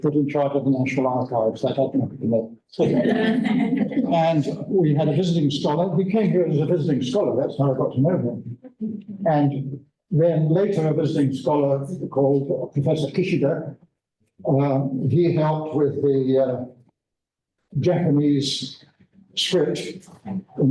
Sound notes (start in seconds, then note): 2.8 laughter